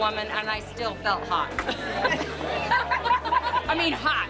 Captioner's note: laughter